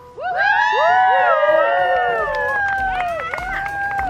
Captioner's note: crowd cheers